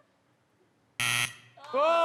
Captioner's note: buzzer